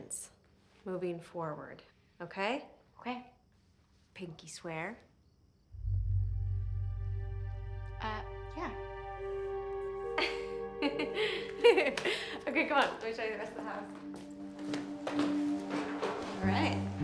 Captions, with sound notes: Moving forward. Okay? - Okay. - Pinky swear? (slow ominous music) - Uh, yeah. (laughs) - Okay, come on. Let me show you the rest of the house. All right. - Right.